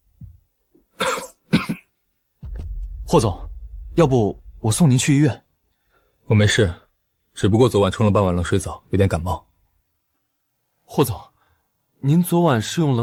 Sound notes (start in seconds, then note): 1.0 cough cough